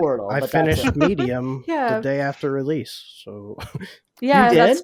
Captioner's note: laughs